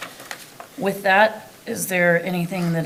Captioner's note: paper rustling